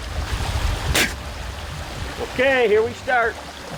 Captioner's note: spits